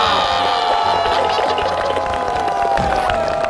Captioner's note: haha